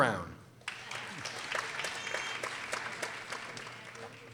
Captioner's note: people applauding